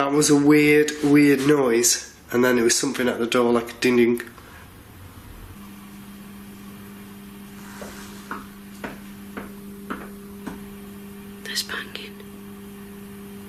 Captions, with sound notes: That was a weird, weird noise. And then it was something at the door like a dinging. (tapping) - There's banging.